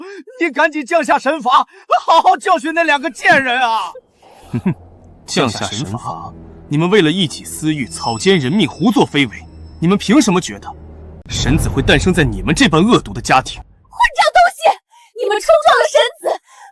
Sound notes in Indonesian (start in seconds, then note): 4.4 hum